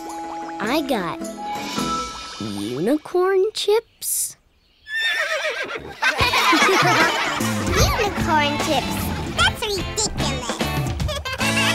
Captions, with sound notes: I got... unicorn chips? [neighing] [laughing] Unicorn chips? That's ridiculous!